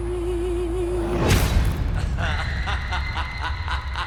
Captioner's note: dramatic music; creepy laughter